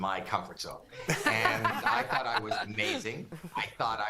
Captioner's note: laughter